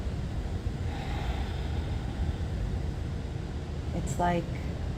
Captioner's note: Nev sighs